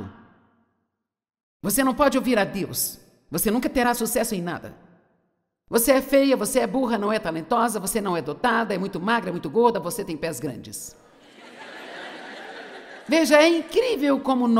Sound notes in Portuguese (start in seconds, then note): 11.2 audiência ri